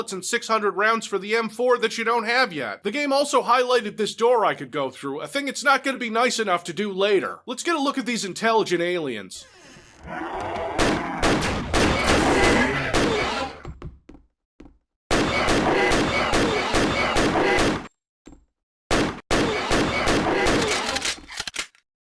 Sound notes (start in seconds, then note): 11.6 really annoying alien pain sounds